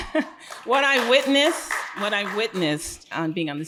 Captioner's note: audience applauding